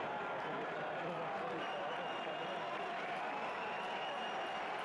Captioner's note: cheers